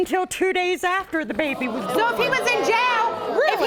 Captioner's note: audience exclaiming